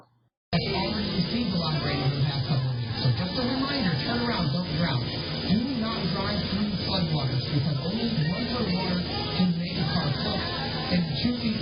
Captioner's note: "21Alive News at Noon" plays in background